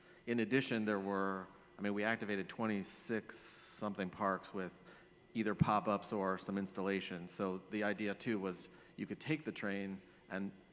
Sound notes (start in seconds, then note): none